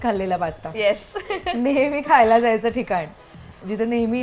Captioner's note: chuckles